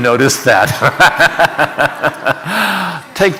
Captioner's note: laughing